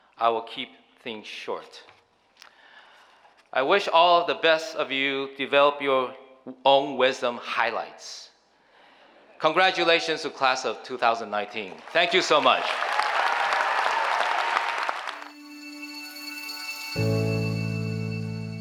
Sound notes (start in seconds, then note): 13.2 cheering applause; 15.2 electrical music